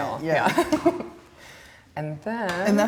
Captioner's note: laughs